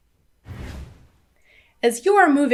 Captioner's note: air whooshing